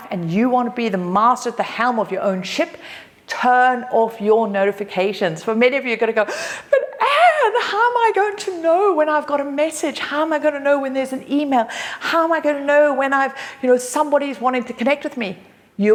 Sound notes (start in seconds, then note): 6.3 gasps